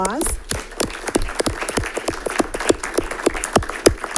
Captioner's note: group applauds